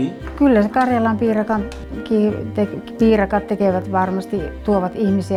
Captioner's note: speaking in foreign language